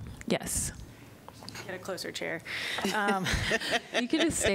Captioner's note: laughter